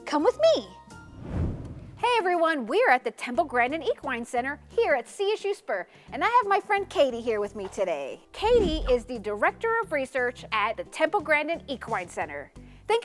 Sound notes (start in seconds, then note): 1.0 transition whooshes